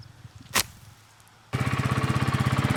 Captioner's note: scrapes; motor revs